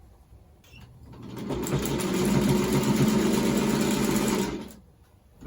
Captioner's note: sewing machine whirring